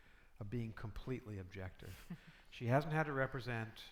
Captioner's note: chuckling